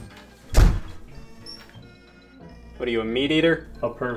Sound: door slamming

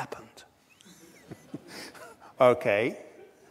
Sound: laughs

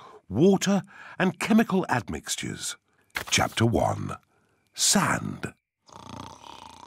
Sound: snoring

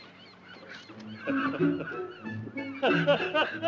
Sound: laughs

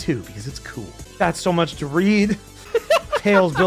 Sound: laughs

